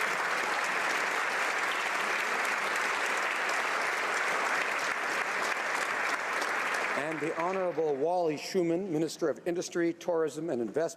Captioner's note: applause